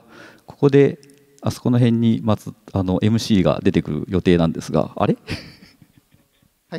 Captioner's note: chuckles